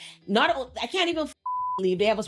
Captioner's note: beep